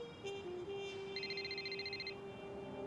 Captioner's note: phone ringing